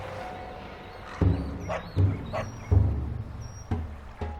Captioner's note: dog barking; drumming music